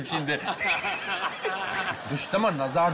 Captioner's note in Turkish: Gülme sesleri